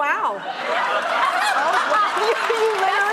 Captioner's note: laughing